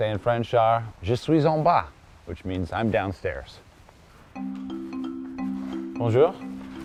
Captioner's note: speaking french